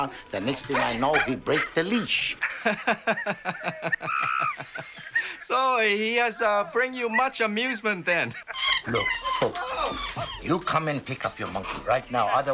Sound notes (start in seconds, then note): 2.9 nervous laughter